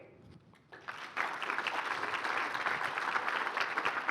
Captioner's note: applause